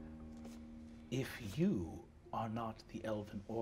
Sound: none

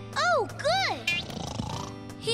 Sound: snoring

